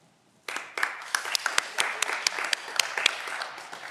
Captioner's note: audience applause